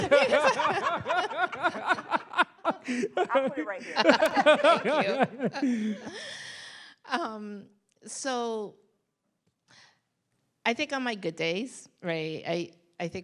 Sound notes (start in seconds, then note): 0.0 panelists laugh